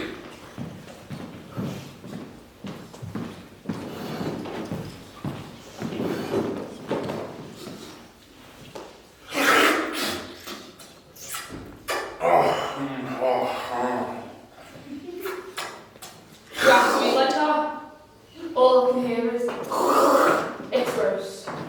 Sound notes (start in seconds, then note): 9.2 loud Eating Sounds; 19.3 imitates sounds